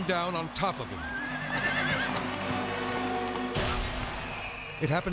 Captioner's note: horse neighs